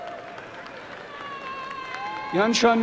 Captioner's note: applause and cheering